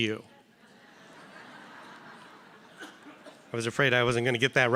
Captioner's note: audience laughing